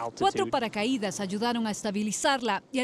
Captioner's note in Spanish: HABLAN EN INGLéS